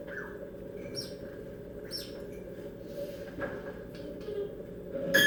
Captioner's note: mimicking baby birds chirping--from outside the window last spring